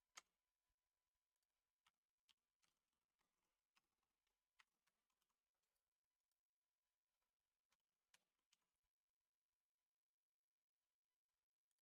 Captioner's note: silence